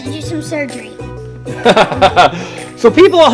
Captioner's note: laughs